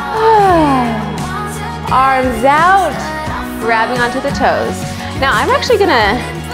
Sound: sighs

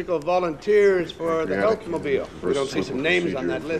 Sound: benton muttering

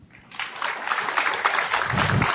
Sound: applause

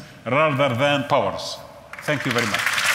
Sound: audience applauds

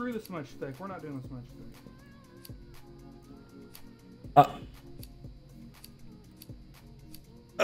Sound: Proud Arkansan noises

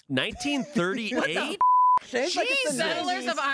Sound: beep

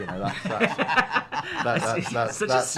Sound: both laughing

